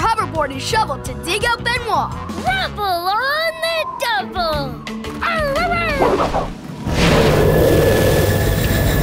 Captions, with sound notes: and shovel to dig out Benoit. Rubble on the double. [barking]